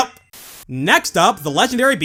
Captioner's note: static